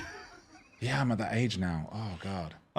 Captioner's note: laughing